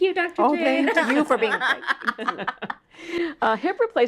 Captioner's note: laughs